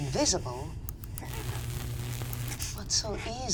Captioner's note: electrical charge